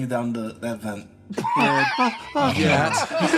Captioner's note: laughs